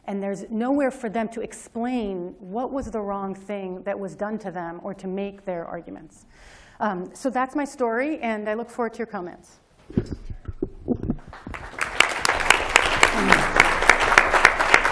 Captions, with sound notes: And there's nowhere for them to explain what was the wrong thing that was done to them or to make their arguments. So that's my story. And I look forward to your comments. [APPLAUSE]